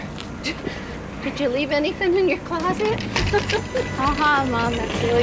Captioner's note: laughs